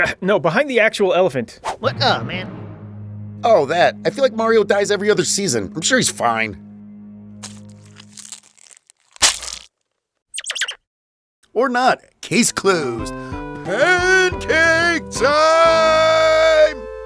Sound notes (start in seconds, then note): 7.4 Mario's innards squelching; 10.3 chipmunk squeaking